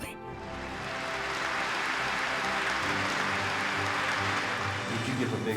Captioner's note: applause